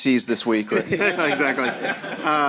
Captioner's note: laughter